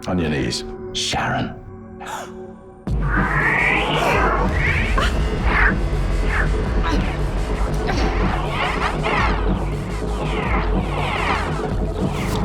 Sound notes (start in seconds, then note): 2.0 gasping; 2.1 intense music